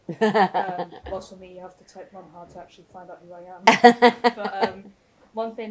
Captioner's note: laughter; laughter